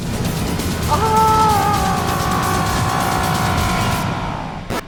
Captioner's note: screaming